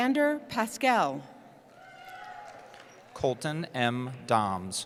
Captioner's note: cheering